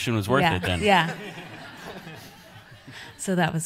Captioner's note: audience laughs